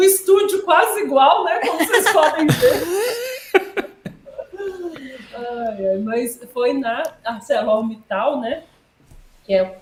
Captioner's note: laughs